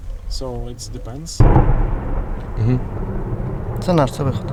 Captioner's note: explosion